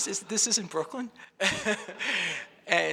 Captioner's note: laughs